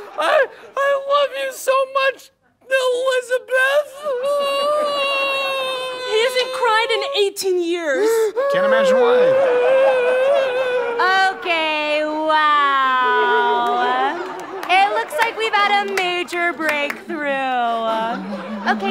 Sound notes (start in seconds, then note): 0.0 screams; 4.2 wailing; 9.6 audience laughter